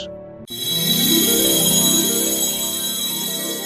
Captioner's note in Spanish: campana